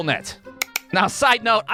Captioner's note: click